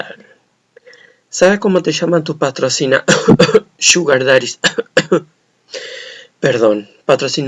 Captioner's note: cof cof